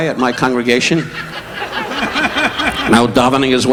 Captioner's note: audience laughing